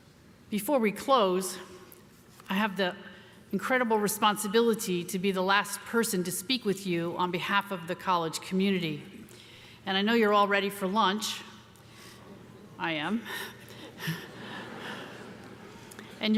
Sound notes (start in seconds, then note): 12.2 crowd murmuring; 13.7 audience laughs